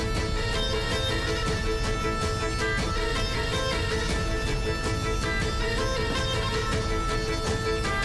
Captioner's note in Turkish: none